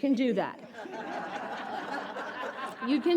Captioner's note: audience laughs